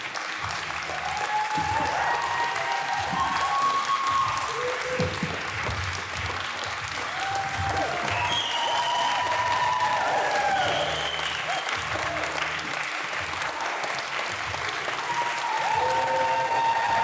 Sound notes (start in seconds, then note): 5.6 applause